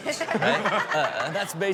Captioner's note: all laughing